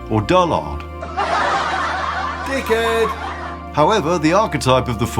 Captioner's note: laughter